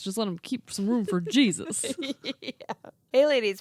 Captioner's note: laughs